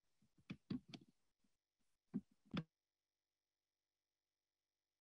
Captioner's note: pause